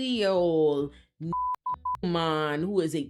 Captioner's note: beep